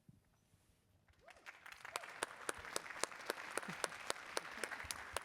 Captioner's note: applause